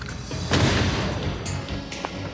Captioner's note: gunshot